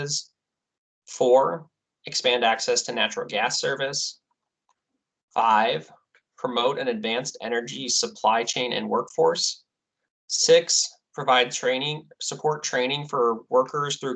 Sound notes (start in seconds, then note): none